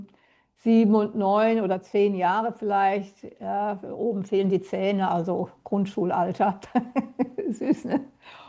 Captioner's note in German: gelächter